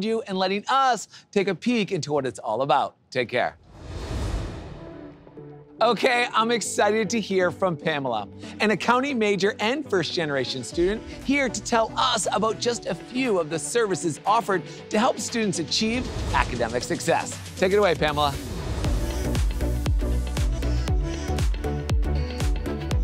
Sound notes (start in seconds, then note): 3.6 graphics whoosh; 5.0 soft airy music; 18.0 graphics whoosh; 19.4 airy music intensifies